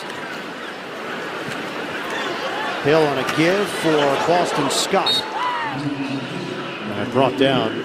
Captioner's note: whistle blowing